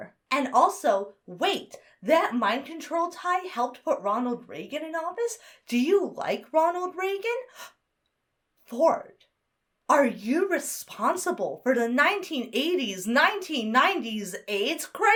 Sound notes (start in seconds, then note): 7.4 gasps